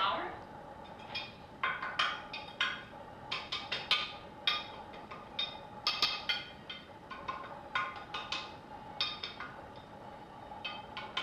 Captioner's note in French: Cooking Noise